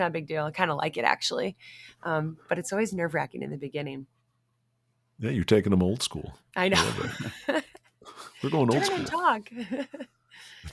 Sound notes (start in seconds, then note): 6.7 laughs